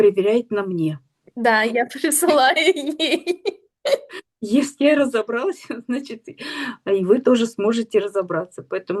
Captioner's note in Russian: смех